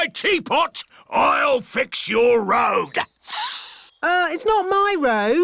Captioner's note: sniffs